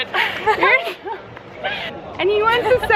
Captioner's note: laughing